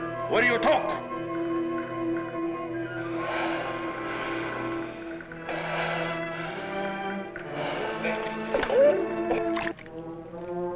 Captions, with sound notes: Will you talk? [BREATHES DEEPLY] [NON-ENGLISH SPEECH]